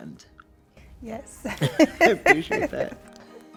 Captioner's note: laughs; gentle music